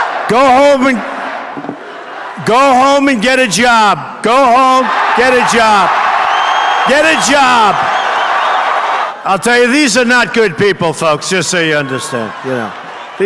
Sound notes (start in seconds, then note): 6.0 audience Cheers